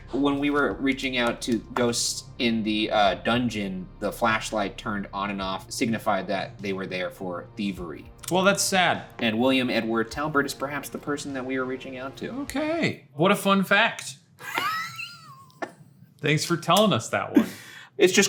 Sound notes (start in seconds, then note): 14.4 laughing